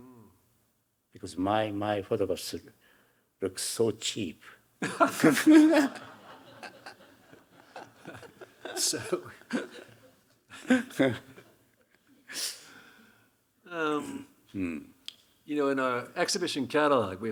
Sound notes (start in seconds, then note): 4.8 laughing; 4.8 Hiroshi laughing; 6.5 audience laughing; 7.5 laughing